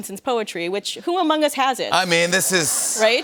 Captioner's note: laughter